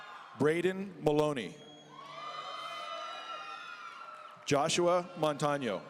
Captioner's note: audience cheering; audience cheering